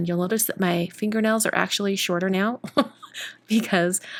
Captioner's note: laughs